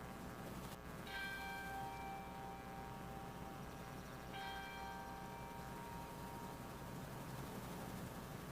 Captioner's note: bell rings 3 times